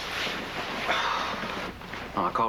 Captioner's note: Soupir